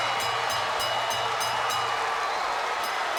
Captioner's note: bell dings